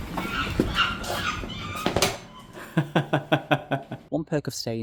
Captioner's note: monkey noises